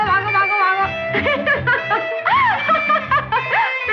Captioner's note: Laughing